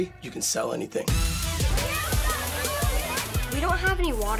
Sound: water gushing

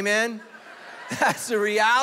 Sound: congregation laughing

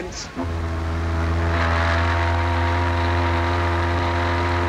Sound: boat horn blaring

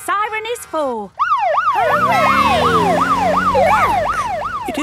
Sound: siren

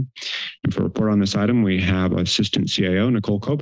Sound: inhales

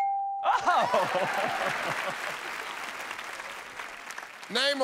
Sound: laughs

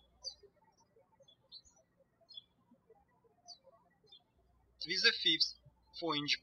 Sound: birds chirping

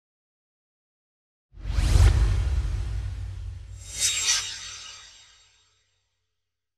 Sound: swoosh

